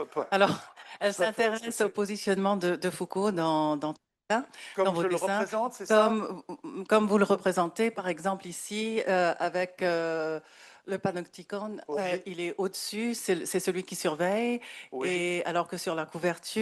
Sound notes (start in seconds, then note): 0.0 speaking French; 2.1 speaking French; 8.9 continues speaking French